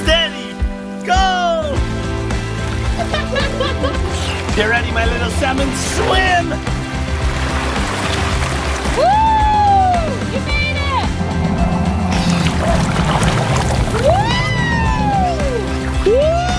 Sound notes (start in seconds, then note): 2.8 laughs; 10.4 yells; 14.2 exclaims